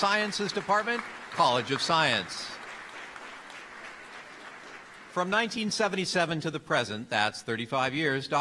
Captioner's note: applause